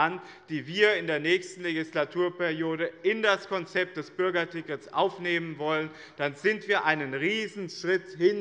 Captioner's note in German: none